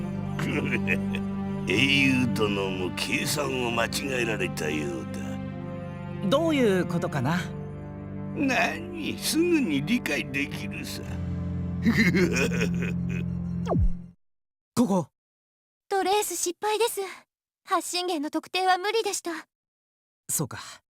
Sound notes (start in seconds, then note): 0.4 evil chuckle; 11.8 evil laugh